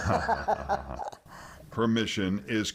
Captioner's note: both laughing